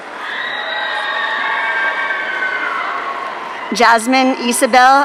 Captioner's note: audience cheering